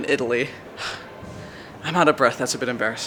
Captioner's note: sigh